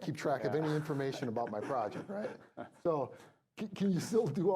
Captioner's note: laughing